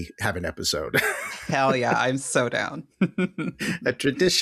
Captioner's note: laughter